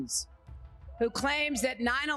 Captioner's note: cheering